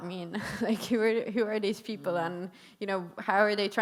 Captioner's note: chuckles